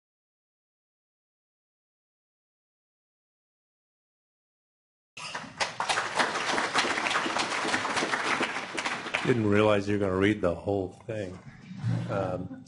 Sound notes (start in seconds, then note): 5.2 applause; 12.0 laughter